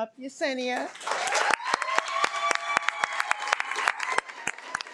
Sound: audience cheering

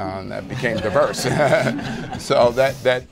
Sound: laughter

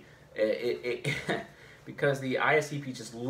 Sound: chuckles

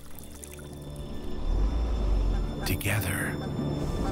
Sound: running water

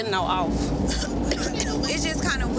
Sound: coughing

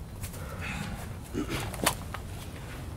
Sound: Ryan clears his throat

